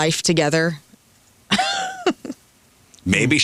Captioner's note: laughs